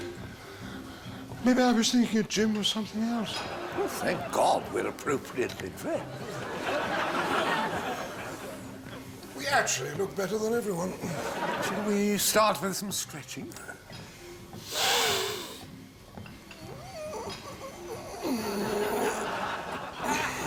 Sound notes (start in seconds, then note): 14.5 both inhale deeply; 15.3 creaking